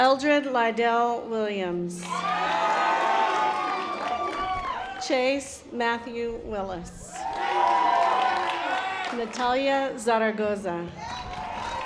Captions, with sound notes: Eldridge la del Williams. (audience applause) Chase Matthew Willis. (audience applause) Natalia Zaragoza.